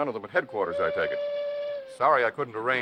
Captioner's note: horn blowing